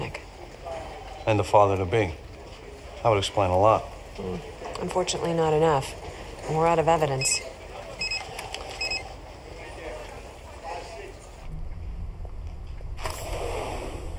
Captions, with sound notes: And a father to be. That would explain a lot. Unfortunately, not enough, and we're out of evidence. ( phone ringing )